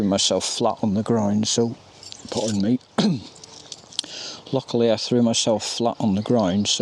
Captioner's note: coughs